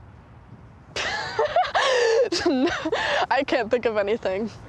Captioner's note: laughing